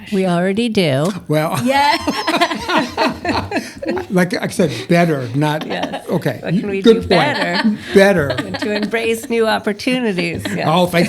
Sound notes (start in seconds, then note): 1.6 laughter